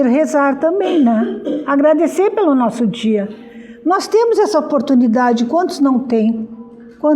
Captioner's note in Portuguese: limpando a garganta